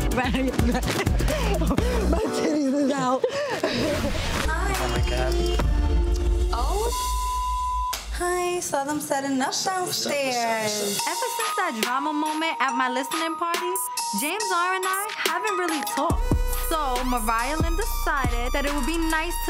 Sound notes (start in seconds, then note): 6.6 beep